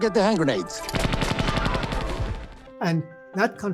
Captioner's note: shots thundering